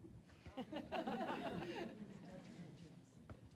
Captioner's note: audience laughing